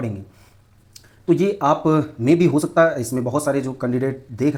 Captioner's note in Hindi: नाक से की जाने वाली आवाज़